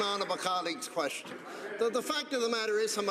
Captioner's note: some Applause